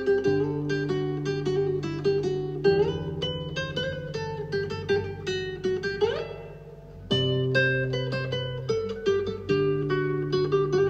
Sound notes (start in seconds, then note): none